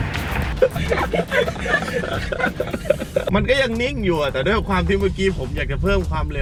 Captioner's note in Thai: เสียงหัวเราะ